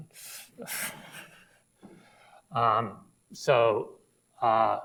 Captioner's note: laughs